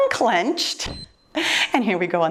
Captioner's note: timer beeps